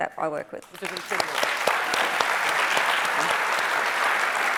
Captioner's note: audience applauding